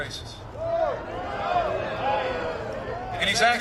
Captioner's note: crowd boos